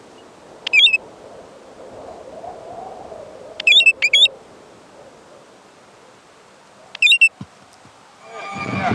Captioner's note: bird calls